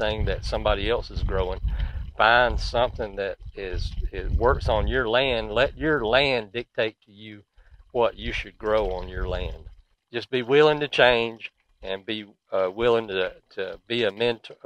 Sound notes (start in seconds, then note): 1.5 swing clicking